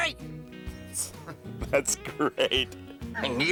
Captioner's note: laughing